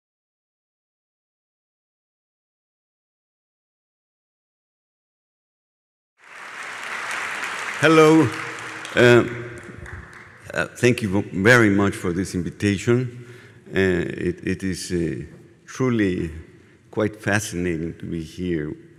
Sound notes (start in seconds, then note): 6.2 applause